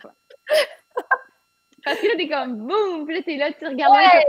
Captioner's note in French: rires